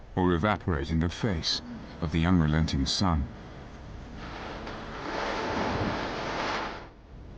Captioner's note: dramatic music; river waves crushing